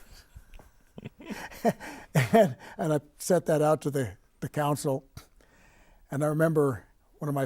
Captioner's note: laughing